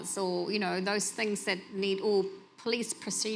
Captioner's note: none